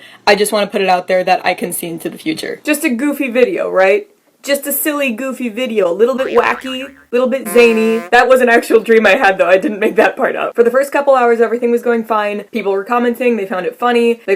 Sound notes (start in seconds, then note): 6.2 boing sound effect; 7.4 clown horn